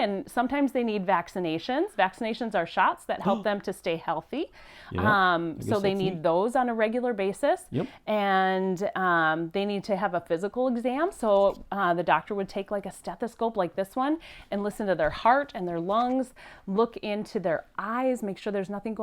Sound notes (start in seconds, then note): 3.0 Boink gasps